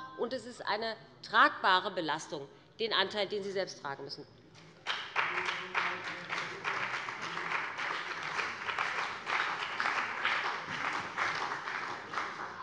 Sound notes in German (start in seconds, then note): 4.8 Beifall bei dem BÜNDNIS 90/DIE GRÜNEN und der CDU